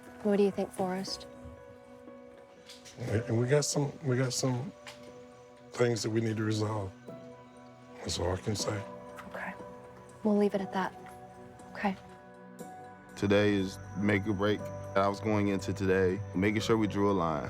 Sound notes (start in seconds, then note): none